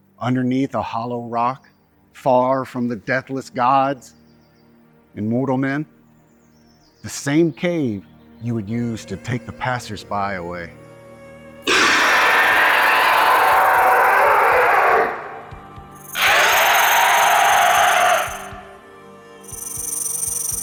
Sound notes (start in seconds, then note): 11.6 snake growls; 11.6 snake screeches